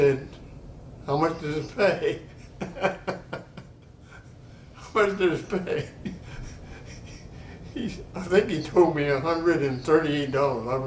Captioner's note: laughter